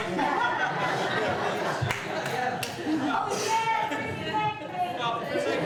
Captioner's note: audience laughs; audience chatters